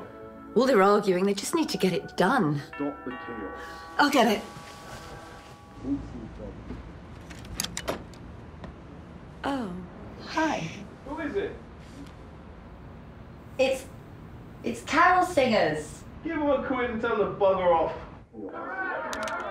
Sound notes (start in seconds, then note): 2.4 doorbell